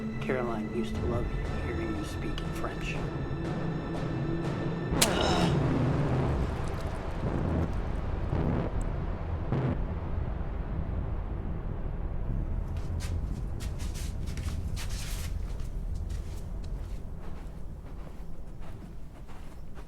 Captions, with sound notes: Caroline used to love hearing you speak French. (flesh squelching) (Ben grunts) (footsteps pattering)